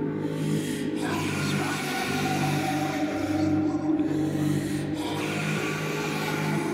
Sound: Celtic voices whispering

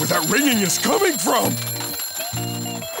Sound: ringing

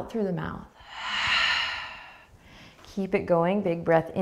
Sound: exhaling breath

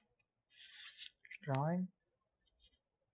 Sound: skims card

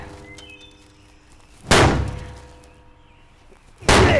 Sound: bangs; bangs

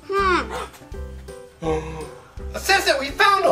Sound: gasp

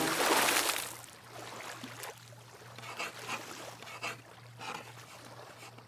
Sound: boat horn honking; waves hitting shore

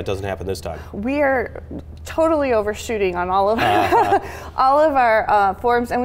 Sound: laughs

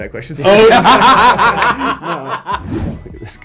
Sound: laughing

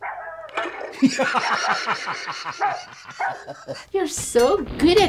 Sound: Ollie giggles as dog barks

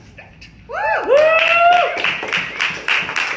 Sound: cheering; clapping

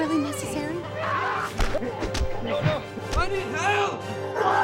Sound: scream

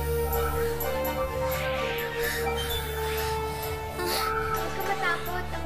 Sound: gasping

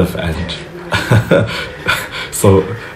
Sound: laughs

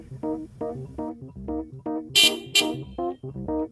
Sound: honk

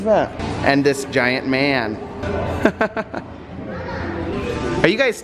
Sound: chuckling

